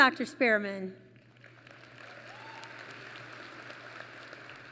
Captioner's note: applause